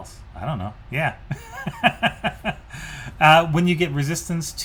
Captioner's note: laughs